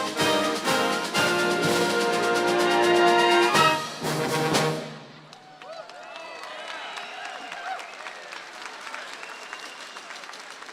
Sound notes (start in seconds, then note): 5.2 audience cheers and applauds